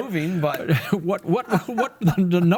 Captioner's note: laughs